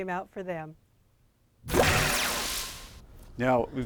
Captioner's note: swooshing Sound